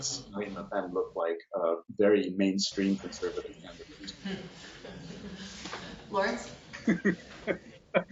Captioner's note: laughter